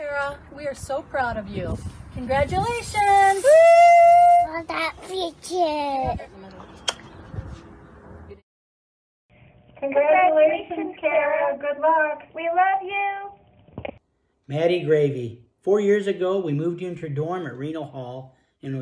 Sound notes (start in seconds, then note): 3.4 shouts; 6.8 kisses